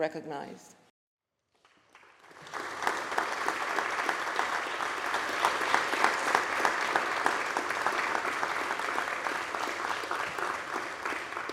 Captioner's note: applause